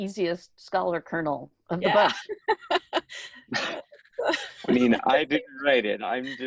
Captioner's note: laughs